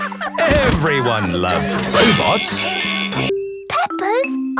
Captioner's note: robot laughing